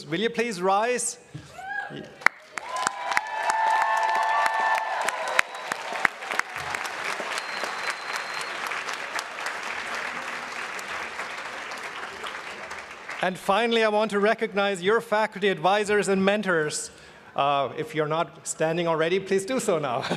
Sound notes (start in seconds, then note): 2.2 applause